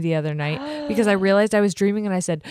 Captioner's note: gasps